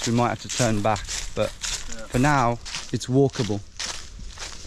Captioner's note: none